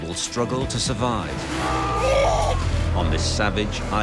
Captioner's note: sea lion growls